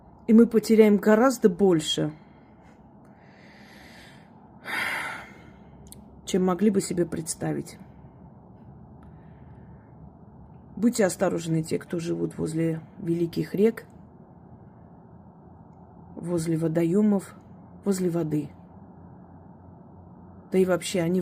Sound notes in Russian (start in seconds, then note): 4.6 вздыхает; 4.6 тяжело вздыхает